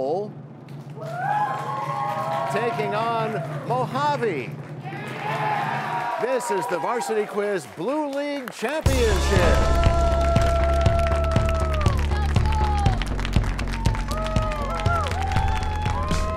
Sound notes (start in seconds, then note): 0.2 cheers and applause; 4.8 cheers and applause; 9.7 crashing sound